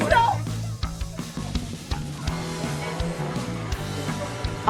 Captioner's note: nervous chatter